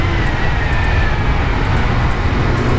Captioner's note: engine revving